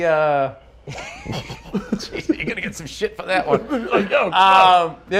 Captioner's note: laughs